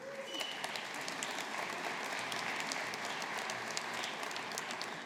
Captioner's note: audience applauding